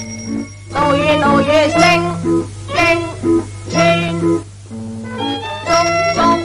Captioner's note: cuckoo